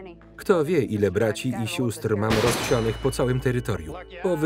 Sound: gun shots

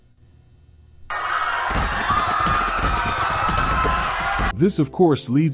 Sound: crowd screaming in fear

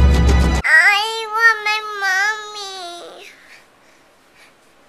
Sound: cute Baby Voice

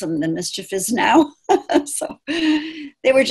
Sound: laughing

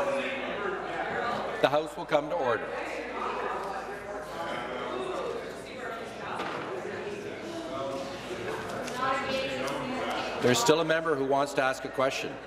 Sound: conversation din

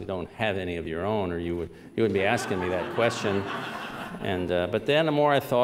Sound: laughter

